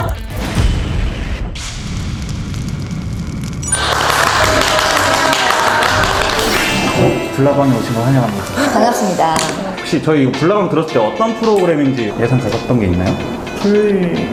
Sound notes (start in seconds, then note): 3.6 applause; 3.6 cheers